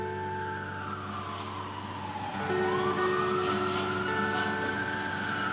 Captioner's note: siren